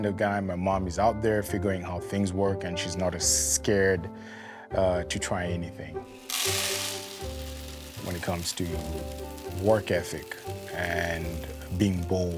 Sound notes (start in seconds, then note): 6.0 grain pouring